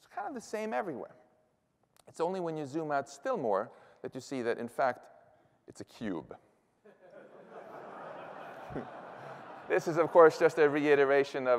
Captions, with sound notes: kind of the same everywhere. It's only when you zoom out still more that you see that, in fact, it's a cube. [LAUGHTER] This is, of course, just a reiteration